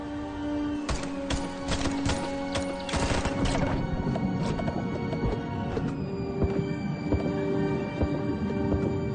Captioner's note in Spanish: Disparos